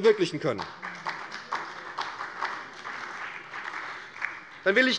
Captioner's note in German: Beifall bei der SPD